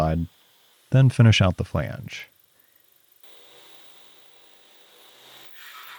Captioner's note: machine whirring